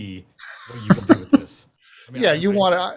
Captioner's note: laughs